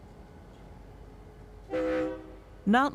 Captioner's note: train horn